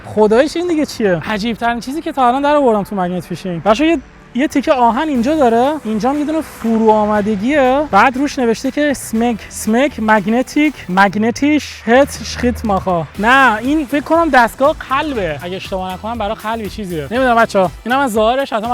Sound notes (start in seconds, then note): 9.2 in German